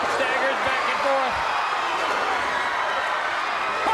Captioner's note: crowd cheering